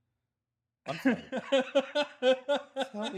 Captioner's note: laughing